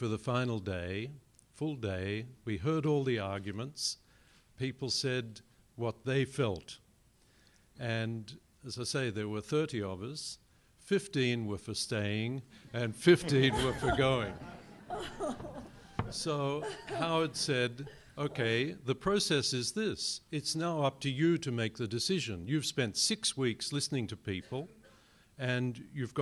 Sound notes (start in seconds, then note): 13.2 laughter